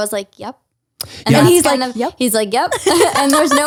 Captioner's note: laughs